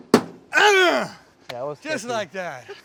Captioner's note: grunts loudly